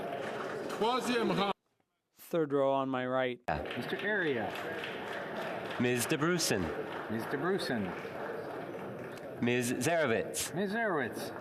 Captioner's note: calling of recorded vote